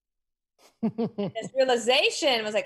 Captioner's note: laughs